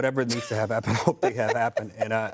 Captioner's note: laughter